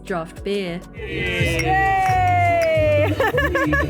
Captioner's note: laughing